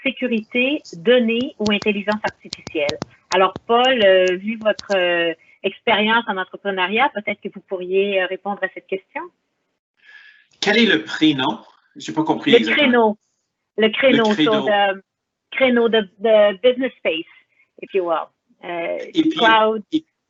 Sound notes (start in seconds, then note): 10.1 responds in foreign language; 10.9 speaks in foreign language